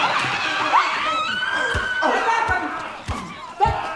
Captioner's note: woman screaming